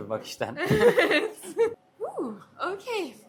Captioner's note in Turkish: kahkaha